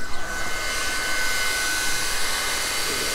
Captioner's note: machine noise